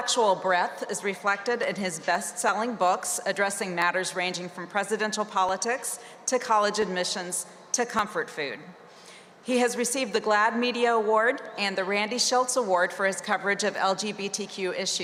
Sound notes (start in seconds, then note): none